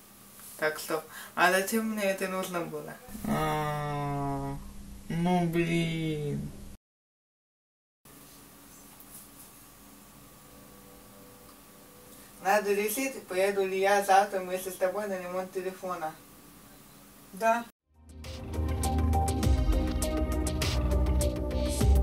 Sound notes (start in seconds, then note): 5.1 lowering the voice tone